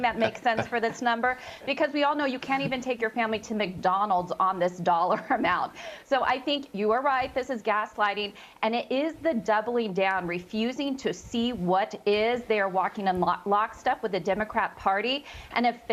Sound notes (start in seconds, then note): 5.0 laughter